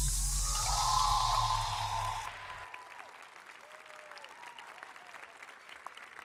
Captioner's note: audience cheering; audience applauding